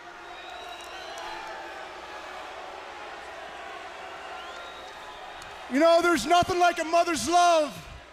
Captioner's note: crowd chatter